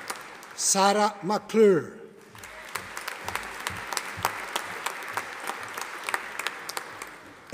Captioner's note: audience applauding